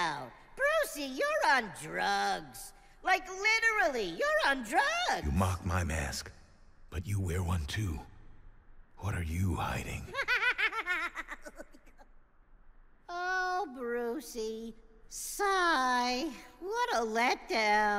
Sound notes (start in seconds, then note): 10.1 giggles maniacally